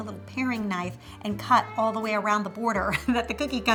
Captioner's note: laughs